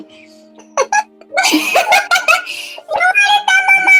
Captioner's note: laughs